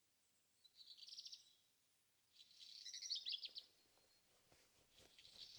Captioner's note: birds chirping continues